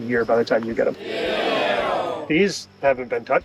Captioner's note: crowd